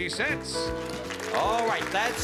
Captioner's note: cheering and applause